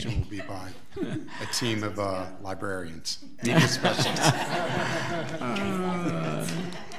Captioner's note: board laughing; audience laughs